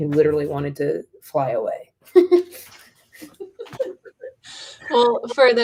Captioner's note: laughter